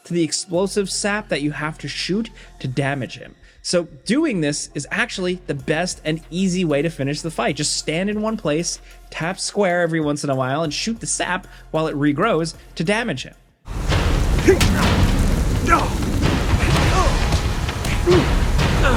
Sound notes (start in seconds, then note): 13.6 dramatic music; 13.8 grunting; 15.8 Lazarevic grunting